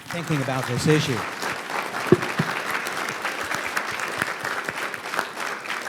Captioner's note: audience applauding